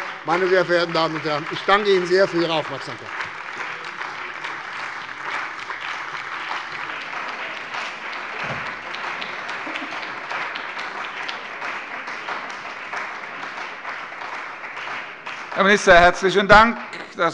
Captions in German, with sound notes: - Meine sehr verehrten Damen und Herren, ich danke Ihnen sehr für Ihre Aufmerksamkeit. [Anhaltender Beifall bei der CDU und dem BÜNDNIS 90/DIE GRÜNEN] Herr Minister, herzlichen Dank.